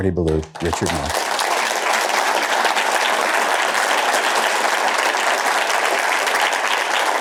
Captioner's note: applause